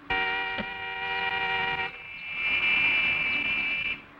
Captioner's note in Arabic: بوق مشتعل